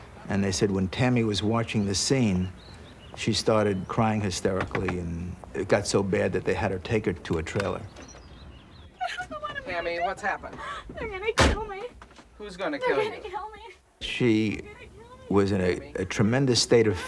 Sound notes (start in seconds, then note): 9.0 crying